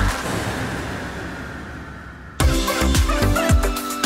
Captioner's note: screeching; music fading out; EDM music continues